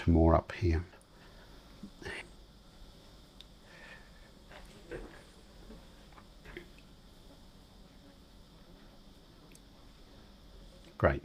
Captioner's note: silence